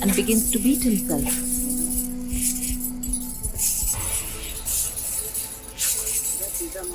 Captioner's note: iron chains clanking